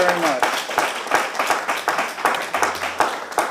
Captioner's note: applause